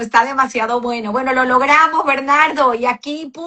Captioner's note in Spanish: none